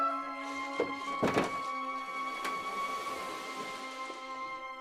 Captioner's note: slowly opening bedroom door